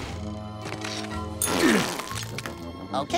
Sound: grunting

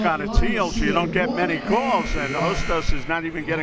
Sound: buzzer

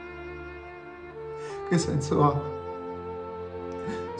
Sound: sobbing

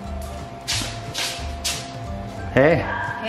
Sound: feet tapping

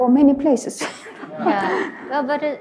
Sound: all laugh

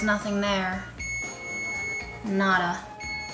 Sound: beeping

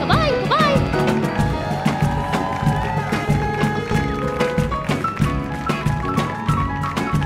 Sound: lively music continues; audience cheers

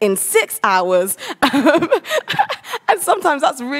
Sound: laughs

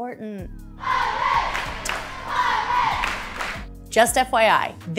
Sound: crowd cheers; clap, clap

